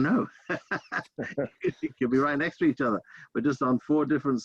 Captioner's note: laughter